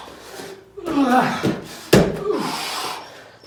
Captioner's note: grunts; exhales sharply